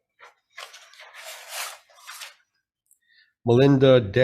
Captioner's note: pages rustling